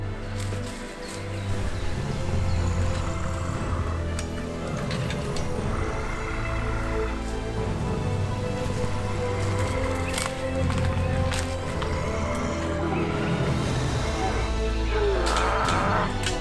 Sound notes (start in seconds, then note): 2.6 sounds of an orc